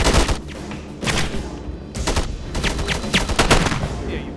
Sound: guns firing

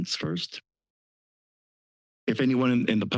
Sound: pause

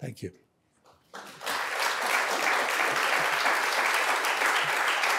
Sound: applause

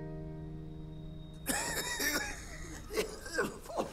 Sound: coughing

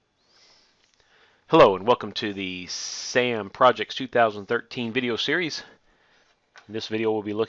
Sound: exhales

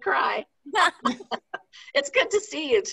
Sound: participants laughing

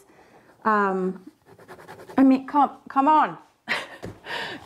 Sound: pen scribbling

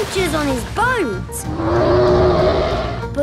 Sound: loud roar

